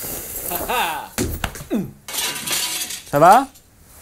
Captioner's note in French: bruit de verre brisé